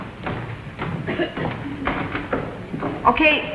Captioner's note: footsteps receding